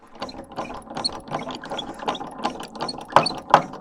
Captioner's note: lever ratcheting